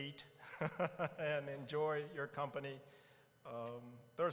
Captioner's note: laughing